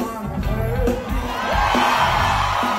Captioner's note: audience cheers